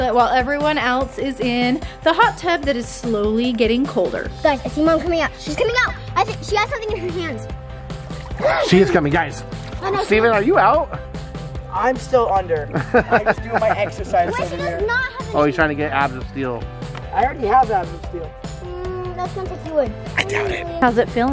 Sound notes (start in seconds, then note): 8.1 gasps; 12.7 laughs